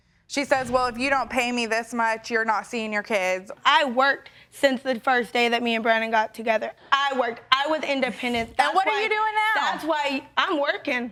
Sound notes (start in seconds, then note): none